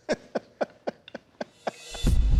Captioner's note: laughs